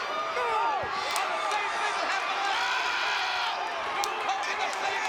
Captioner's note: crowd yelling